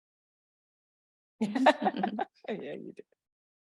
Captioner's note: laughing